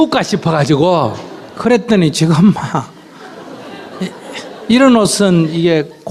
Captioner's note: audience Laughter; audience Laughter